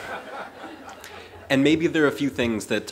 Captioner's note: laughter